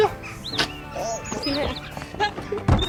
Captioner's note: laughs